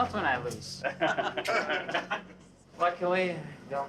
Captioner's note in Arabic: يضحك المدرب